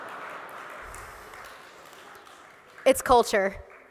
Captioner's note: laughter